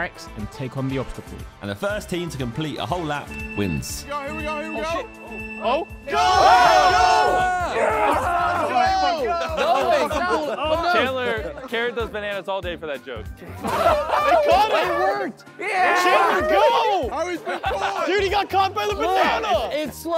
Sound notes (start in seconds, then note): 3.0 timer counting down; 6.0 contestants cheering; 13.6 contestants laughing; 15.6 contestants yelling; 17.1 laughing